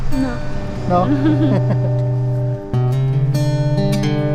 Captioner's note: laughs